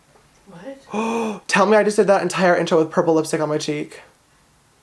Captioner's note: gasps